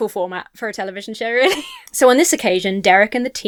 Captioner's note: laughs